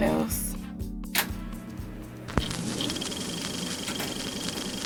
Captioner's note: clicking